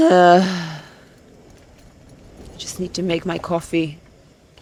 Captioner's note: person sighing